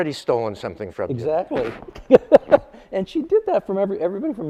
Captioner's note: laughs